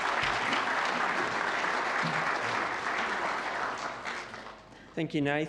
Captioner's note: audience applauds